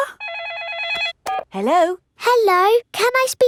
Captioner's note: phone rings